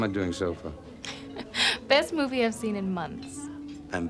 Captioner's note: laughs